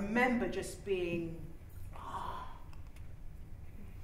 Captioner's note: she gasps in wonder